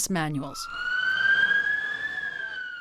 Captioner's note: siren wails